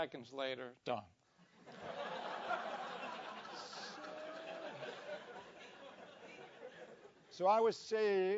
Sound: laugh

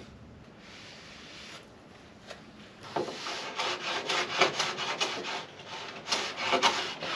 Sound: scraping, planing

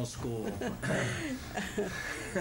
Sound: laughter; laughs

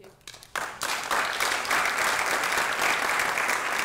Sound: applause

